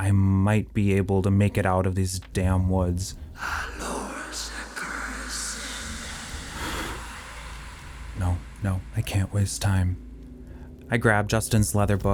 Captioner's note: scary sound